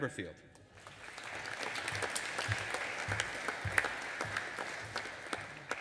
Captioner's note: audience applauding